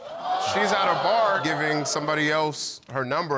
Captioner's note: audience exclaiming